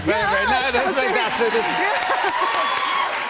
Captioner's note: cheers and applause